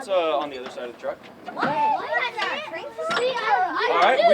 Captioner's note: children chattering